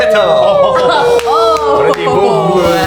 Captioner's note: exclamations